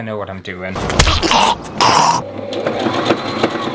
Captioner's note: punch!; sewing Machine Noises